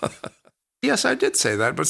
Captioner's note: laughs